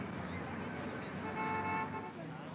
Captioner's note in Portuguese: Buzinas